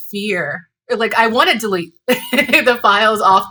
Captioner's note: laughs